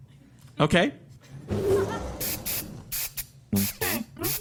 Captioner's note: SFX: Spritzing